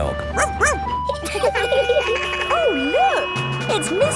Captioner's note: laughing; sirens sounding; barks